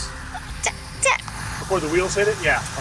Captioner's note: stammers